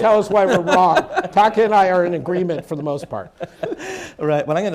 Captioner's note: laughter